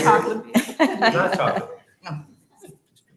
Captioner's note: laughter